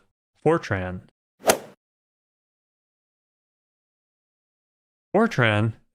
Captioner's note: golf ball hit sound